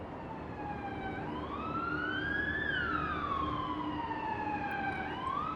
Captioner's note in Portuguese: som de sirene